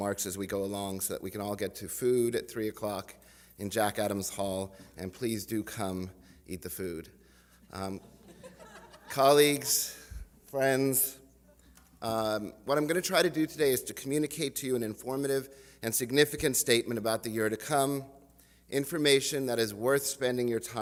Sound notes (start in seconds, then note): 7.6 laughter